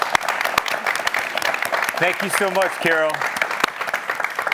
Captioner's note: applause